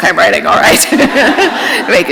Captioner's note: laughter